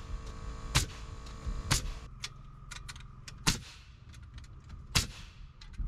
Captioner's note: buzzing